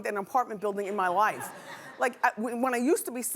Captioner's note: laughing